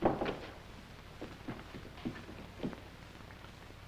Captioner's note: door shuts; footsteps